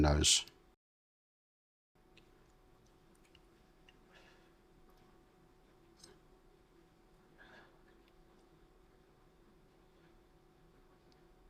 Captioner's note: silence